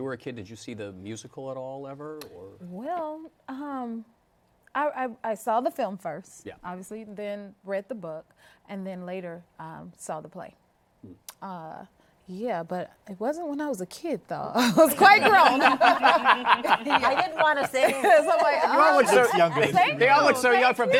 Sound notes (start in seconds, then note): 14.6 laughter; 14.6 laughing